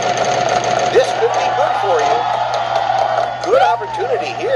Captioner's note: pat